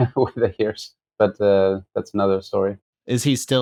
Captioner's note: laughter